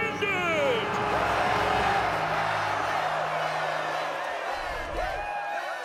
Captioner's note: cheering